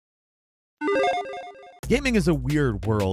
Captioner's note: electronic chiming